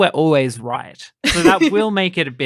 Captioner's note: laughter